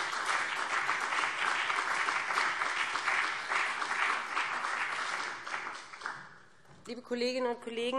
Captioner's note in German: Beifall BÜNDNIS 90/DIE GRÜNEN und CDU